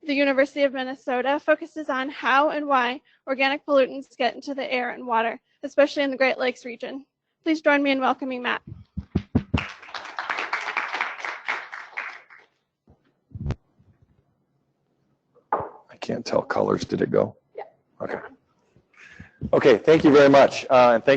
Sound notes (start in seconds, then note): 9.1 applause